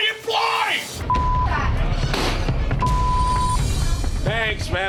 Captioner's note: beep; door thuds